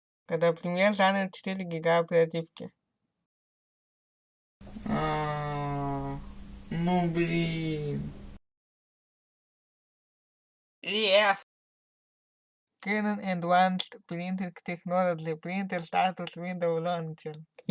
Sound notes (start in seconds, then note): none